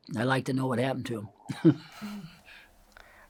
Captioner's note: laughs